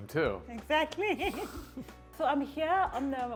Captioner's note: both laugh